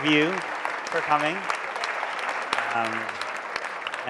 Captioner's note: applause